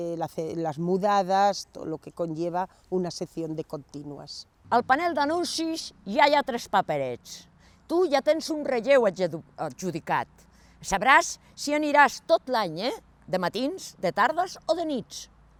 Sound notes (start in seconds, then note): 4.8 in catalan